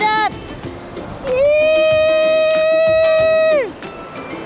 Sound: cheering

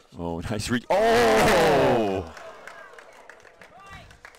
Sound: both groaning

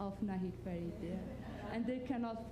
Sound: laughter

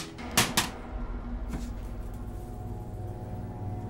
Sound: videotape clatters

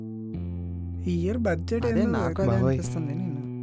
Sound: blabbering

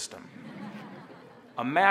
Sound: audience laughing

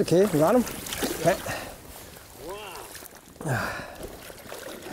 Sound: splashing

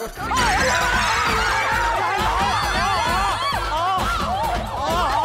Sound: yelps

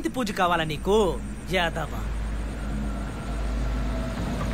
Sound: vehicle approaching

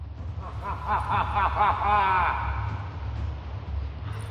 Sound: hahahaha!

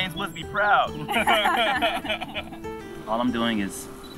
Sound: group chuckling

